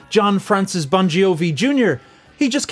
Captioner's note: none